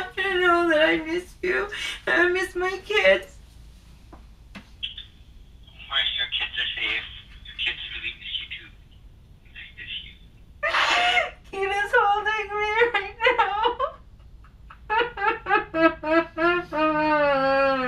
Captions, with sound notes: - that I miss you - and I miss my kids. Well, your kids are safe. The kids really miss you, too. They miss you. - [crying] Kira's holding me - right now. [starts bawling]